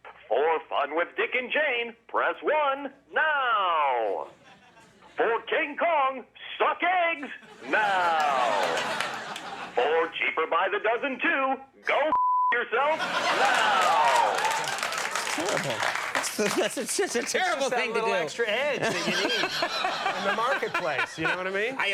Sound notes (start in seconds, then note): 12.1 beep; 12.9 audience cheers